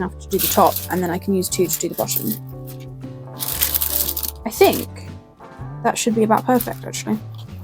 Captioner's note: paper crinkles